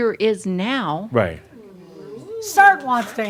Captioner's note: someone says “Ooh!”